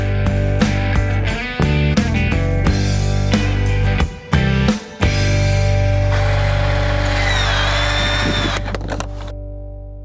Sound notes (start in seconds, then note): 0.0 electric guitar music; 6.0 electric sawing